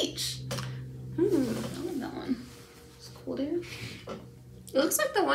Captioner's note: talking softly